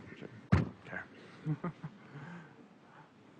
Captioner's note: laughs